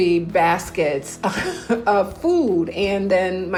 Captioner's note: laughs